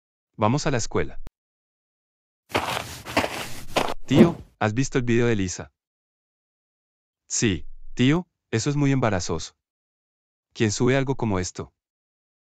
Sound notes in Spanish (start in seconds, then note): 2.5 FX - Footsteps - On Multiple Dirt - Walk; 3.9 FX - Whoosh - 03